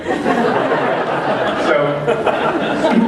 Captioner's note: laughter